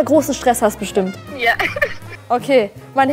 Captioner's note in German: lacht